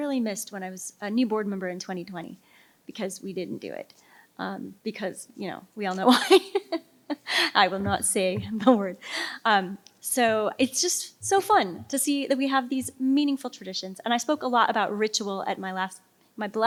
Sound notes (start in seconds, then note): 7.7 laughs